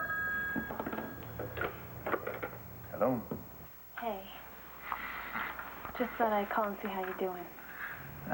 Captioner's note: telephone rings